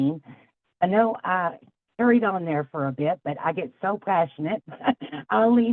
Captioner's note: laughs